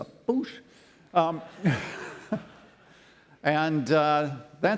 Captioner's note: laughter